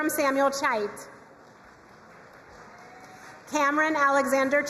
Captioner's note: crowd cheering and applauding